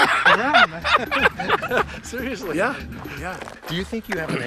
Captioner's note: laughs